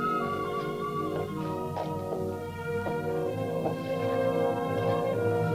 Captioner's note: footsteps tapping